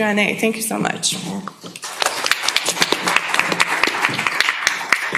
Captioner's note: applause